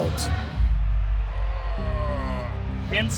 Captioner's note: groaning